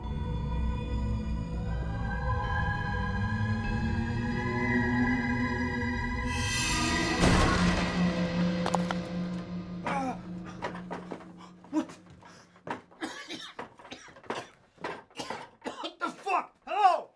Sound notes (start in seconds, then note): 0.2 tense music; 9.8 person grunting; 12.9 person coughing